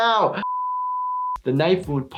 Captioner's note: beep